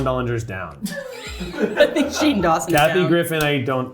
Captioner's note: cast laughing